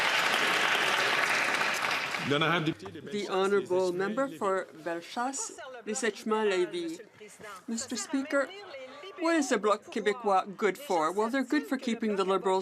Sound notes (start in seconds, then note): 2.9 some Applause; 6.0 speaking French